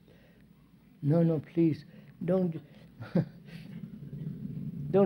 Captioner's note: laughs